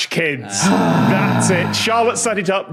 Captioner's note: groans